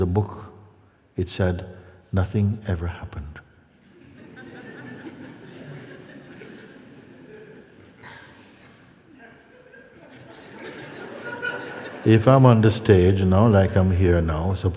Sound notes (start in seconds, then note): 3.8 laughter